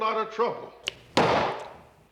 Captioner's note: slam